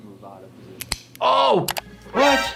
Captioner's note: bone cracking